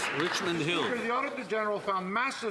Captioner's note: some Applause